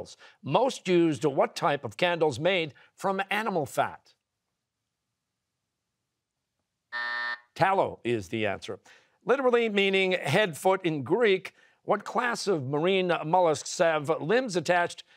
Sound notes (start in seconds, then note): 6.9 buzzer